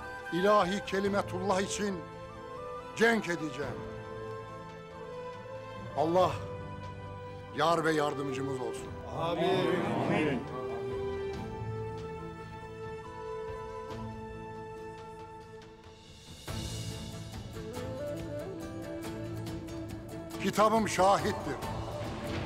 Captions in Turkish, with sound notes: ...ilahi kelimetullah için... ...cenk edeceğim. Allah... ...yar ve yardımcımız olsun. (Hep bir ağızdan) Amin. (Müzik - Vurmalılar) Kitabım şahittir.